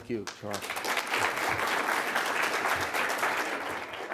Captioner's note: applause